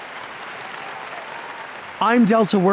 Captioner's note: audience clapping